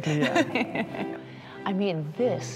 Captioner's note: laughs